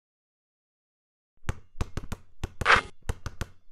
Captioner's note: basketball bouncing; basketball going through net